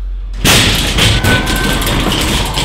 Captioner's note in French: Coup contre la porte